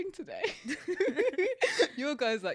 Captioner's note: laughs